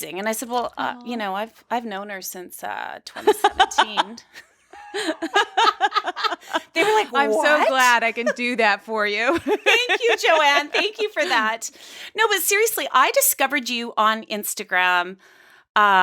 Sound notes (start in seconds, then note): 4.7 laughing